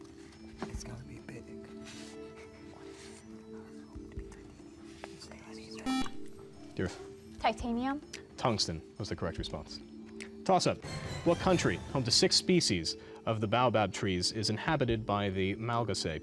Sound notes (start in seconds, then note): 1.8 whispering; 5.8 buzzer